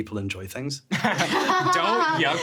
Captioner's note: laughing